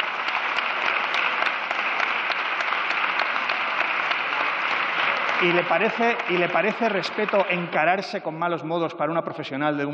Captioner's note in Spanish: Aplausos